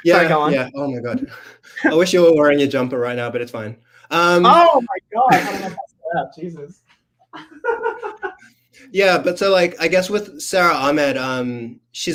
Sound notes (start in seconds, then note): 7.2 laughs